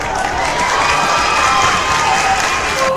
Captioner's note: crowd claps and cheers on